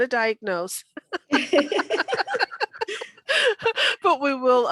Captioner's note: laughing